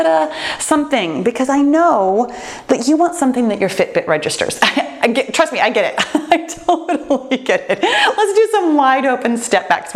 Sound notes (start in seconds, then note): 5.8 laughs